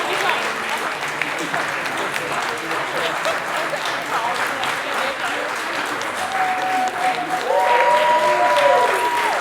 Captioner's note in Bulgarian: Аплодисменти